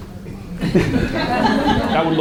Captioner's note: audience laughs